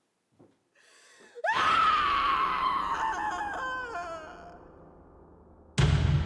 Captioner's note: scream